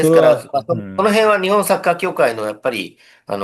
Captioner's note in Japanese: 咳払い